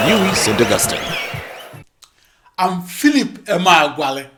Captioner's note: wild applause and cheering for 22 seconds